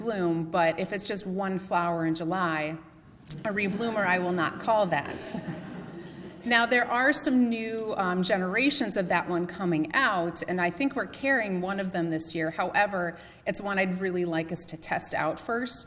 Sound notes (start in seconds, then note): 5.0 laughter